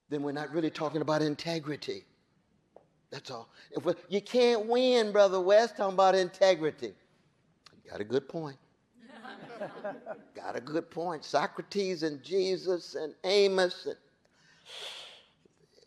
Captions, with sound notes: then we're not really talking about integrity. That's all. "You can't win, Brother West, talking about integrity." You got a good point. (audience laughing) Got a good point. Socrates and Jesus and Amos,